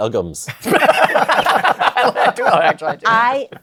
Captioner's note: laughter